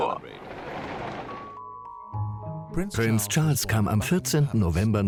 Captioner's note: voiceover